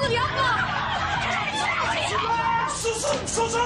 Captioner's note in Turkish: Bağırışlar